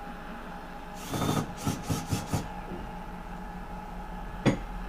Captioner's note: drill whirring